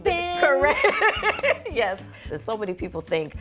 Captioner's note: laughs